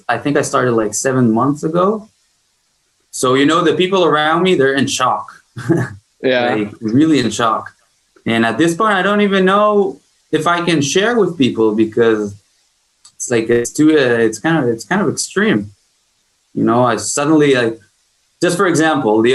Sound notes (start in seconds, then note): 5.2 chuckles